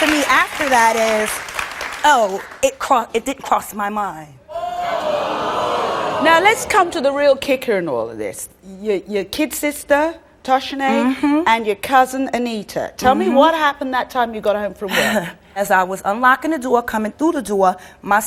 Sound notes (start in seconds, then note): 4.5 audience exclaims in disbelief